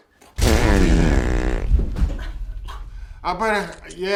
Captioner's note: Arizona farts